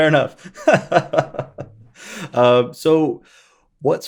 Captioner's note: laughing